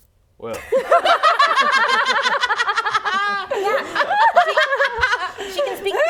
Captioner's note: laughing